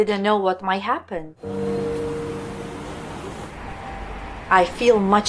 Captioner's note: city noises